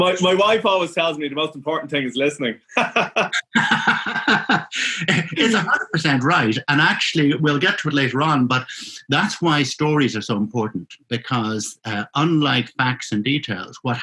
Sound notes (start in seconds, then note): 0.0 laughing; 2.6 laughing